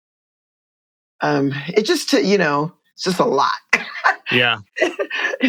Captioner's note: laughter